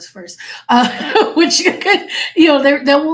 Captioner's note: laughing